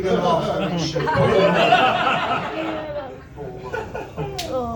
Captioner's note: laughter